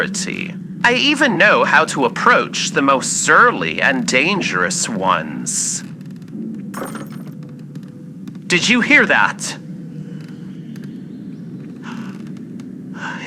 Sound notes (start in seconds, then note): 6.7 glass break in distant fx